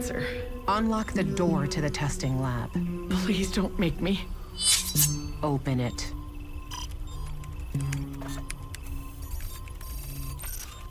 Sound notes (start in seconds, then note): 6.5 keys clacking; 8.5 electronic beeping